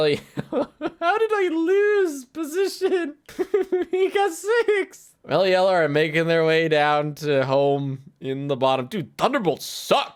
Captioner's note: laughs